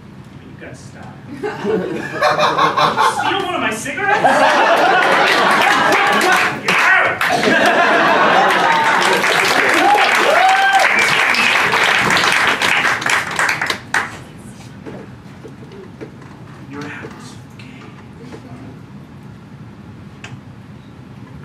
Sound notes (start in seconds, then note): 5.4 laughter; 8.9 applause